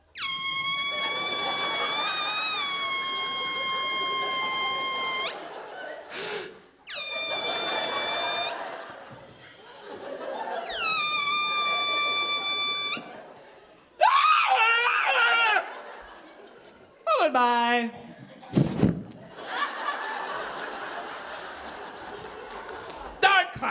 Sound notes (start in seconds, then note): 0.0 audience laughing; 0.0 balloon squealing; 6.2 gasping; 7.0 balloon squealing; 10.0 audience laughing; 10.4 balloon squealing; 14.0 screaming; 18.5 air blowing; 19.9 audience laughing